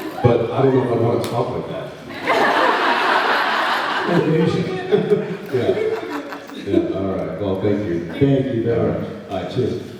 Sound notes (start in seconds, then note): 2.1 laughs